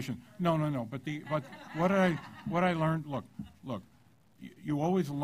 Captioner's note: laughter